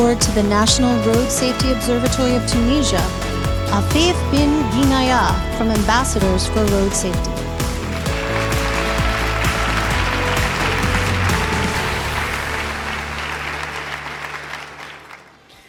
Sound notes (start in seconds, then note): 7.3 audience applauding; 8.1 upbeat music continues